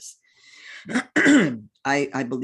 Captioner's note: clears throat